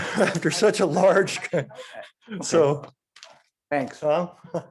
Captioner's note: laughing